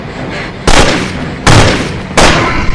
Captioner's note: gunshots; demonic growl